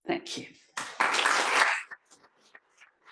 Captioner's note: applause